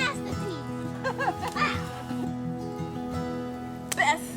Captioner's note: woman laughs